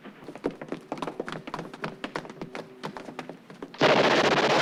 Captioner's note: footsteps pounding; machine guns blasting